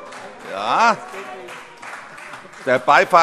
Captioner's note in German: Beifall - Zurufe: Juhu!